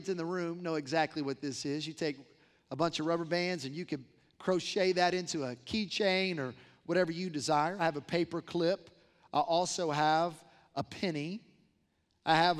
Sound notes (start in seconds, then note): none